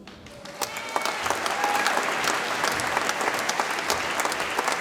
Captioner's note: audience applauds and cheers